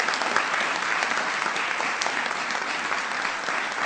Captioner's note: applause